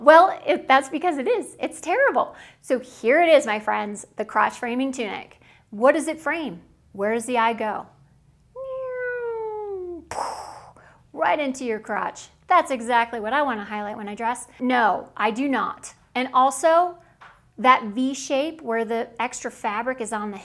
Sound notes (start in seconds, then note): 8.6 bombing